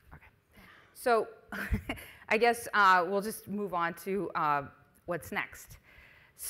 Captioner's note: chuckles